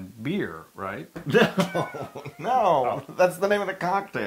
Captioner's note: laugh